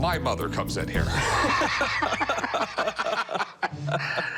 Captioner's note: laughter